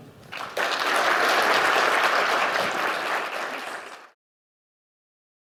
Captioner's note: applause